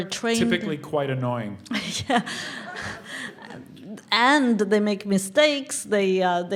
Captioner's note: laugh